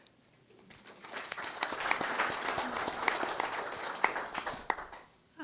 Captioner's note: applause